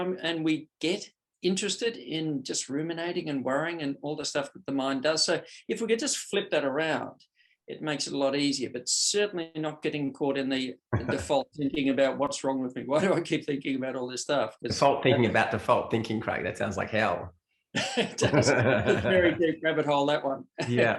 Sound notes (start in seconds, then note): 10.9 laughs; 17.7 both laugh